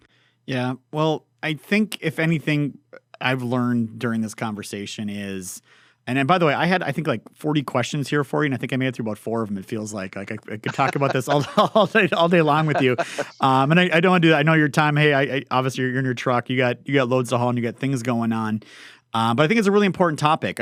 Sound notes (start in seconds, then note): 10.5 laughs